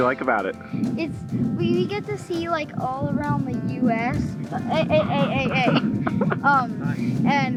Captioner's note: laughing